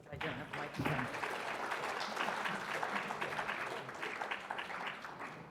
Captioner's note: audience applauding